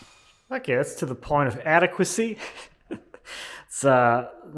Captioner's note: laughs